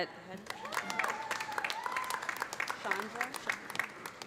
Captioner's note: cheers and applause